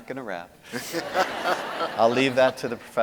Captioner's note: audience laughing